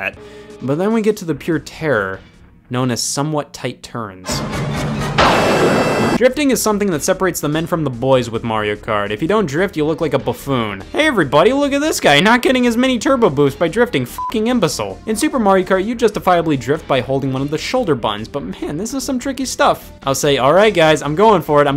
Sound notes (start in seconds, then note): 4.2 dramatic music; 5.1 lightning strikes; 14.2 beeping